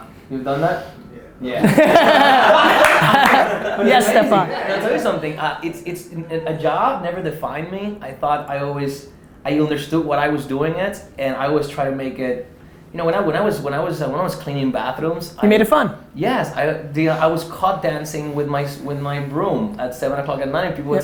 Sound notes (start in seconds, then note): 1.6 laughter